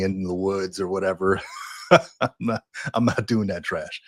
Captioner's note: laugh